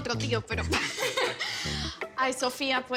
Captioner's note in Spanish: Risas